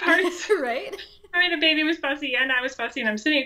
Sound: laughs

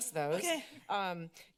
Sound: laughs

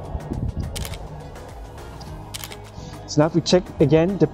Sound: camera clicking

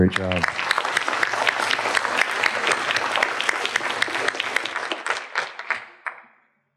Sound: applause

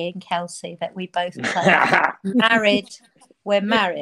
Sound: Ian laughing

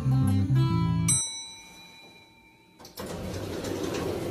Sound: dinging

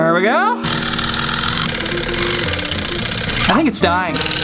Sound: drill buzzes

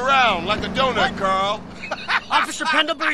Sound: laughs nastily

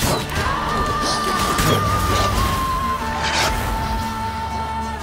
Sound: wolves snarling

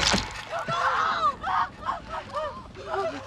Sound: blood sloshes; girls gasping

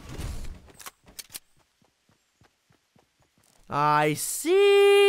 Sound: gun clicks

